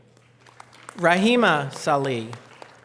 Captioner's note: audience applause